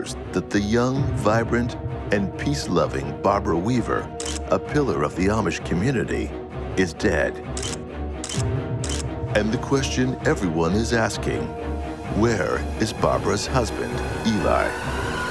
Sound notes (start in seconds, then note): 8.2 shutter clicking